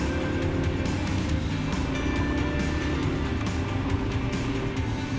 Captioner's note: engine & music